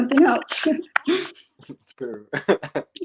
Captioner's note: laughs